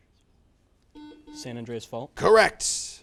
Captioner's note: buzzer